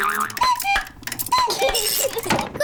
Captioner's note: clock chimes; laughs